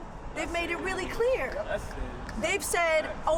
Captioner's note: overlapping chattering